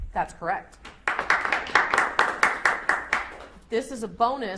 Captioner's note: audience applauds